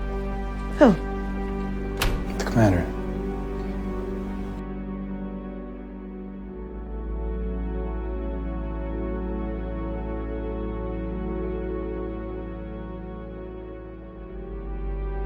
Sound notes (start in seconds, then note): 2.5 voiceover